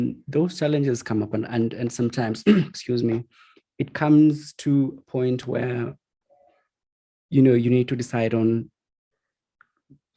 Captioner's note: coughs